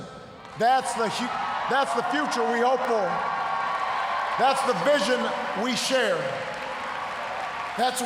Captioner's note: cheers, applause